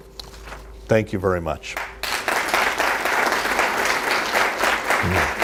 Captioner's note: audience applauds